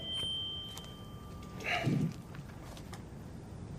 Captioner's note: sighs